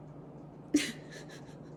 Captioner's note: laughs